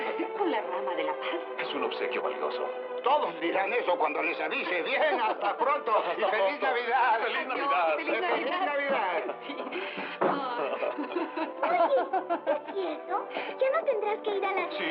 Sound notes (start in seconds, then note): 8.0 laughing